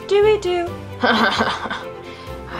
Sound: ominous chuckle

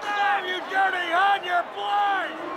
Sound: audience boos

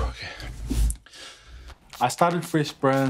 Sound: Lavi exhales; Lavi inhales

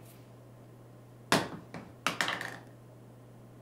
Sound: sound of bottle being dropped

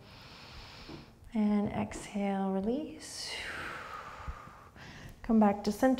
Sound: deep breath; deep breath

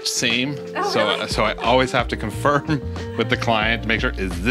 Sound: laughs

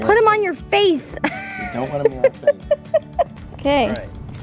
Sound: laughter

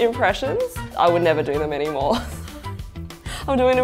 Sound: laughs

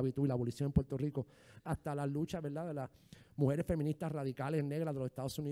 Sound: speaking in foreign language

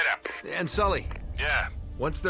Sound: radio; radio

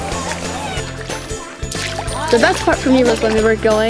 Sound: water splashing

